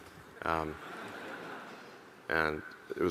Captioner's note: audience laughing